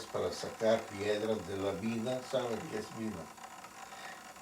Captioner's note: in Spanish